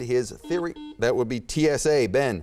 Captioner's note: beeping